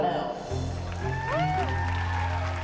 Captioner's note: applause and cheering